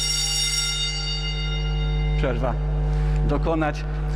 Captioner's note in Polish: dźwięk dzwonka szkolnego